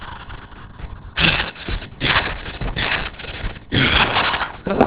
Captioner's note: panting